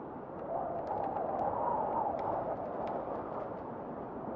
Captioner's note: wind whistling